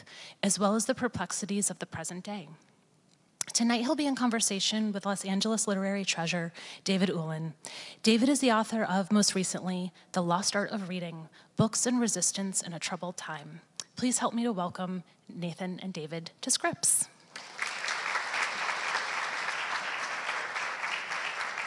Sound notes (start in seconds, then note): 17.3 audience applauds